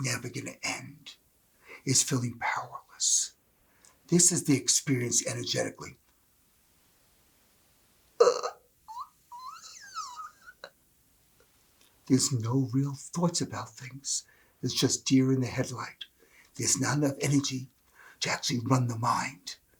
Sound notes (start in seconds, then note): 7.4 screechy sound